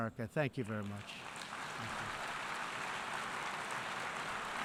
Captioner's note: applause